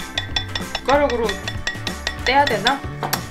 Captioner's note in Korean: 두드리는 소리